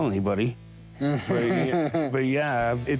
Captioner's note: laughs